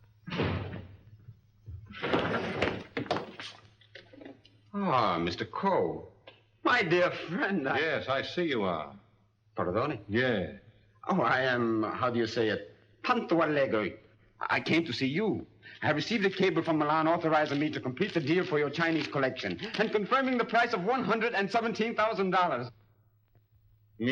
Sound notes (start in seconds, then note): 0.2 door slams; 2.0 clattering sound; 13.0 speaking Italian